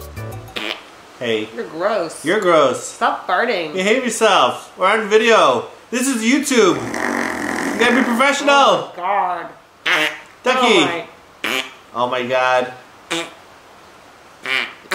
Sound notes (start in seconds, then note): 0.6 farts; 9.5 keep making fart sounds